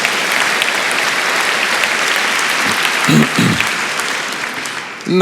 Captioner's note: applause